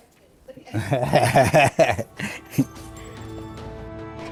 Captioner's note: speaker chuckling